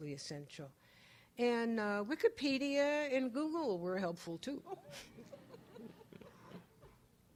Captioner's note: audience laughs